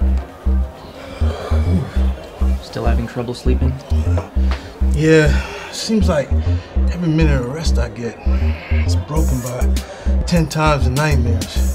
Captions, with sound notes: (Bartender sighs) - Still having trouble sleeping? - Yeah. Seems like every minute of rest I get, is broken about ten times the nightmares.